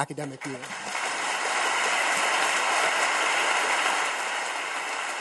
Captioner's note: audience claps